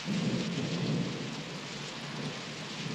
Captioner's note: none